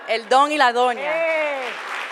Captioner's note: applause; foreign language